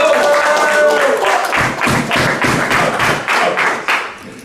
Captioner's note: group clapping